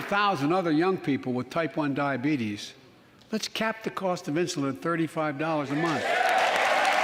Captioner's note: applause